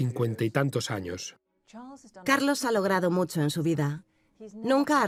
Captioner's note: voiceover